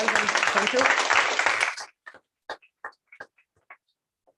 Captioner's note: applause